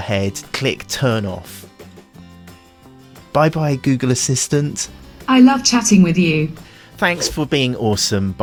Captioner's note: google voice